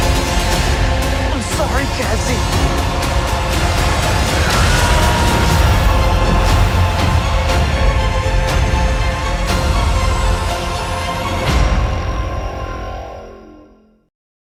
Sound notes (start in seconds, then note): 3.8 screaming